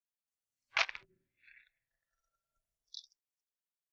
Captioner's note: manacles clack